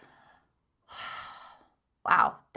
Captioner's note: inhales and exhales deeply